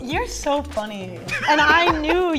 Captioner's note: laughing